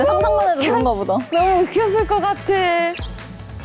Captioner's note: can sing the line but can't stop laughing